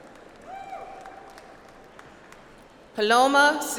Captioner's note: audience applauds